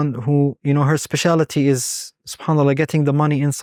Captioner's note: speaking Arabic